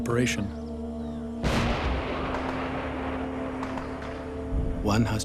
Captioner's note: explosion